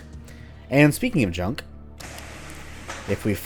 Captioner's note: conveyor belt turns on